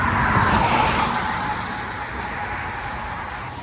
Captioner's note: traffic splashing through rain puddles in the road